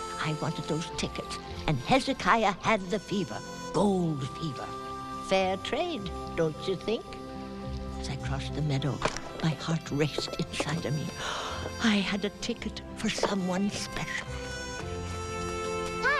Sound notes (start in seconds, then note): 11.1 gasps; 14.3 gentle music